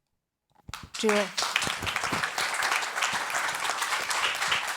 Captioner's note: all clapping